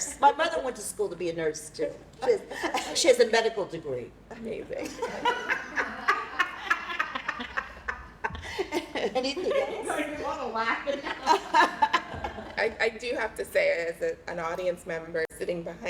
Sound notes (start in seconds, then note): 4.8 laughter